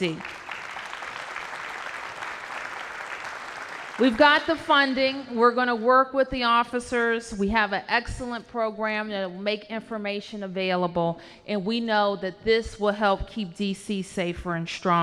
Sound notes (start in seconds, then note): 1.9 applause